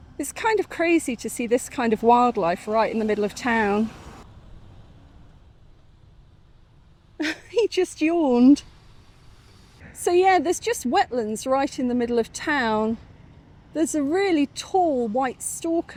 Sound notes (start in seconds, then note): 7.2 laughing